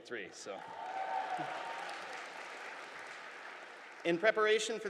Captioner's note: audience applauding